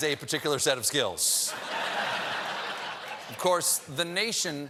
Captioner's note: laughter